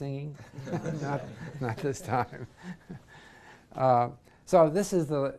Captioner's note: laugh